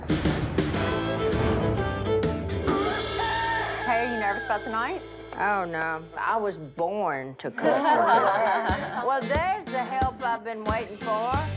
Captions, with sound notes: Kay, are you nervous about tonight? Oh, no. I was born to cook. [laughing] Well, there's the help I've been waiting for.